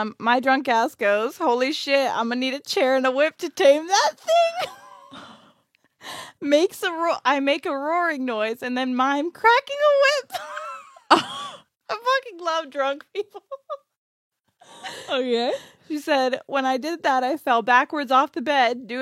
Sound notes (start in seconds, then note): 4.4 laughs; 10.1 laughs